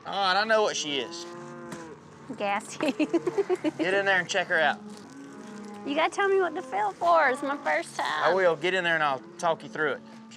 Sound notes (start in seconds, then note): 2.7 laughing